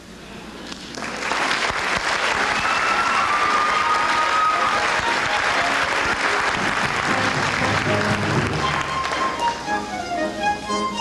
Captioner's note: applause